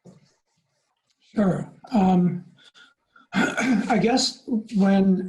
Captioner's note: clears throat